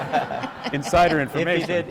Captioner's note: laughter